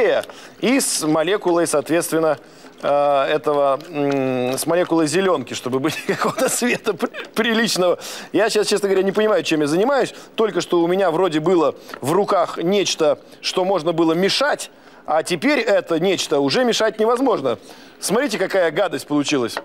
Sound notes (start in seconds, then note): 5.8 laugh